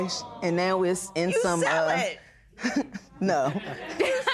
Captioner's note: chuckles